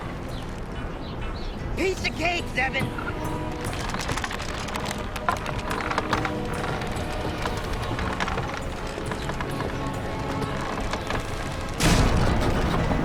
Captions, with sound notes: - Piece of cake, Zzeben. (wood creaking) (footsteps) (wood breaking)